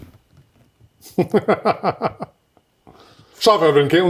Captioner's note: laughing